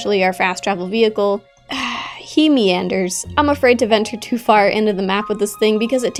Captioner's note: sigh